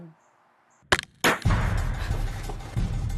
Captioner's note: shot cracks